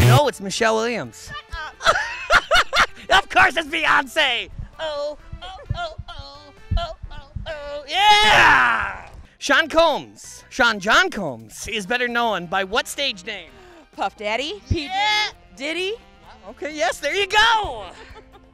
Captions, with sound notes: - No it's Michelle Williams. - Shut up! (laughing) - Of course it's Beyonce! Oh, oh, oh, oh, yeah! Sean Combs, Sean John Combs, is better known by what stage name? - Puff Daddy. - Yeah! - Diddy - Well okay yes, there you go!